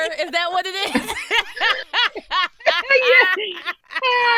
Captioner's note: laughing